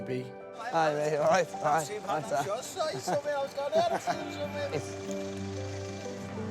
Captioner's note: chattering